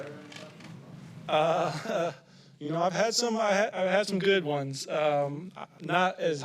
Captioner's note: chuckles